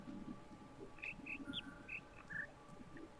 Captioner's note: bird chirps five notes